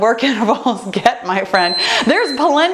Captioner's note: timer beeping